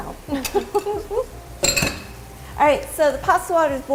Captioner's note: both laugh